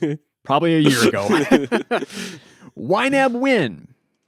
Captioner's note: laughs